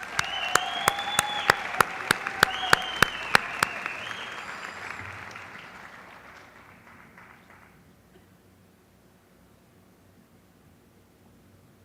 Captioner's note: applause